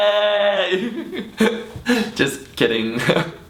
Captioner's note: giggles